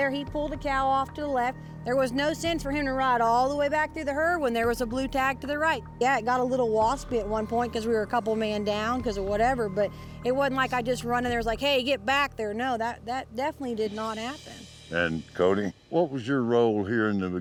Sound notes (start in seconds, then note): none